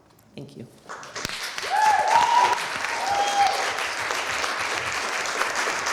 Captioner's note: applause